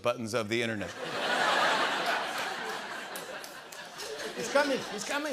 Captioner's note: laughter